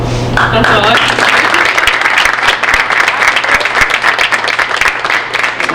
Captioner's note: audience applauding